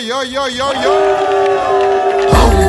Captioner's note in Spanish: Grito de guerrero mapuche